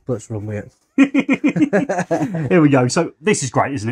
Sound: both laughing

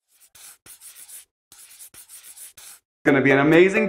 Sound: pencil scratching

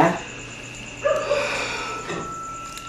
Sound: sighs

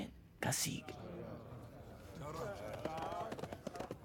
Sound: fighters murmuring

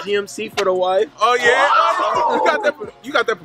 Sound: family squealing

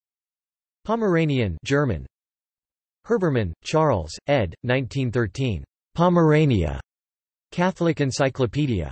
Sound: German

